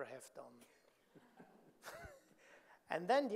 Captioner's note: audience laughing; chuckles